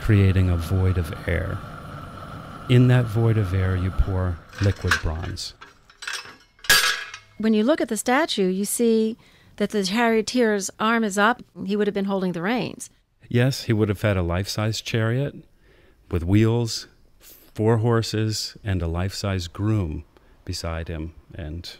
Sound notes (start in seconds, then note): 4.4 metal clanking